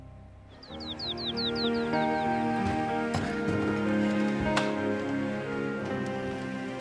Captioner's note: gentle music; birds chirping